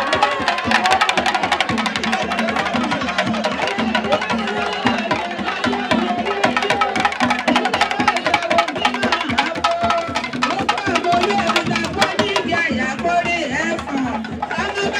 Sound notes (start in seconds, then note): 1.1 people cheering; 6.2 drumming continues